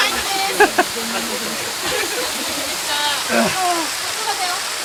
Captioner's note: laughter